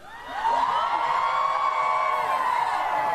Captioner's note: cheering and applause